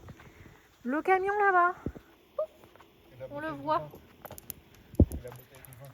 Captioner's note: poof